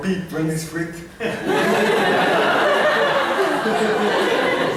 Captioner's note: laughter